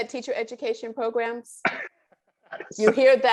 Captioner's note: laughs